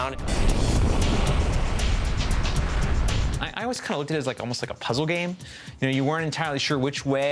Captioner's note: rumbling